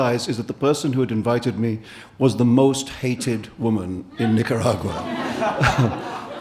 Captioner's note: audience laughing